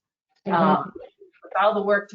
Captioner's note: distorted audio